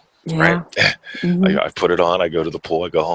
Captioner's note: chuckles